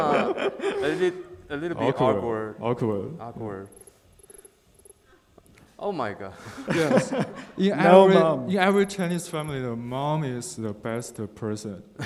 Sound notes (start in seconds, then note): 4.3 text beeping; 6.6 laughing